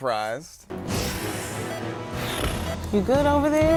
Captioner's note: timer beeping